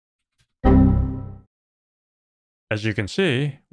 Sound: computer error sound

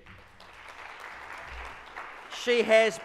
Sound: audience claps

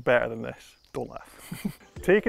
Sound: camera man chuckles

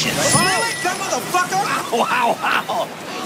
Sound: bell ringing

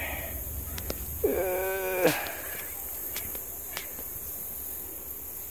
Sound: struggling noises

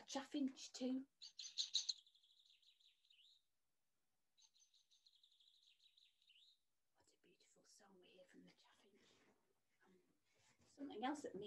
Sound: chaffinch sings

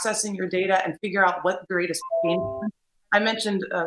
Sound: audio glitches

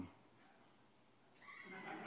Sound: laughter

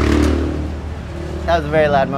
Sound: motorcycle engine revving

